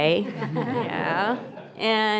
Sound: group laughs

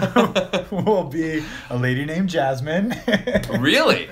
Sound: laughs

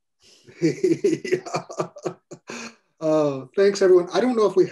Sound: laughter

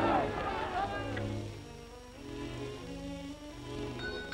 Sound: bell ringing

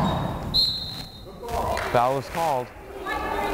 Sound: whistle blows

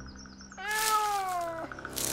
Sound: meowing

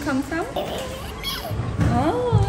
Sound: squeaks

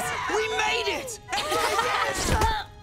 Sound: laughing

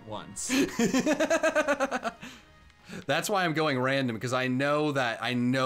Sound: laughs

